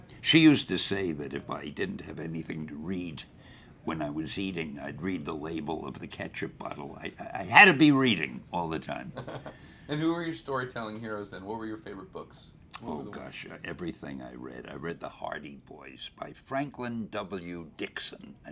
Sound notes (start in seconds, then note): 9.1 interviewer laughs